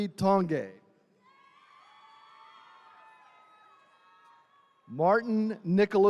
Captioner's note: attendees cheering